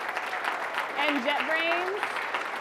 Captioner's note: audience applauding